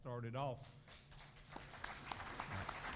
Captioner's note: applause